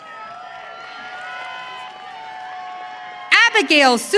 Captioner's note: audience cheering